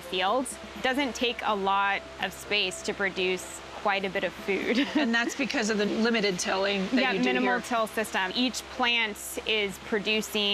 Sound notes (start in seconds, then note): 4.7 laughs